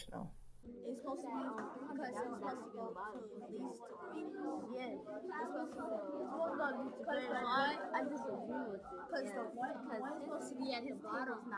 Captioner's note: students talking among themselves